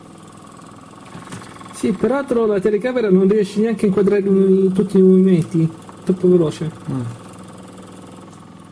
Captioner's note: oversampling effect